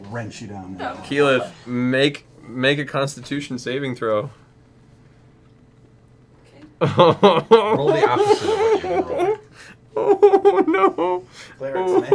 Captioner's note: giggling